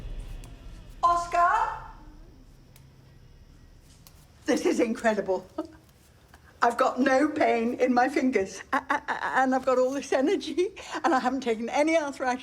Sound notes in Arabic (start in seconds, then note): 5.1 ضحكة مكتومة